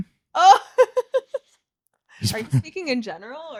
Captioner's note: laughing